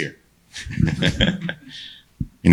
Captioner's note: people laugh